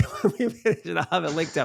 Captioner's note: laughs